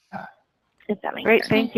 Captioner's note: murmuring